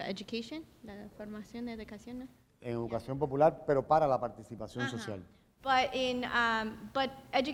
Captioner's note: speaking in Spanish